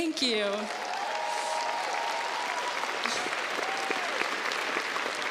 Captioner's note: crows applauds